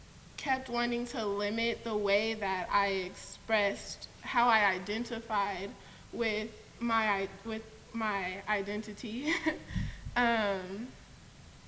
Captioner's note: laughs